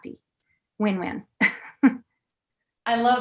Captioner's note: laughter